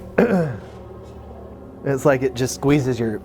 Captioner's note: clears throat